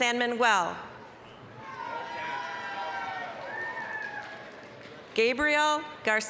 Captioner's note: applause, cheering